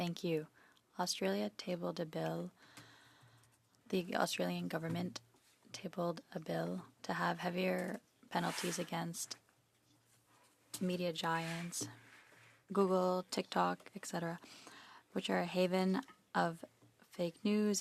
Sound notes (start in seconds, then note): 1.5 speaking in French